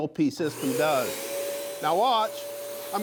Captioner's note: loud air spraying noise